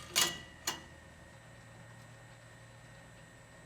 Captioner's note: metal clanging